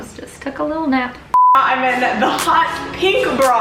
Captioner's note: screen beeps